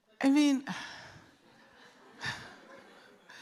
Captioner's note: sighs; laughter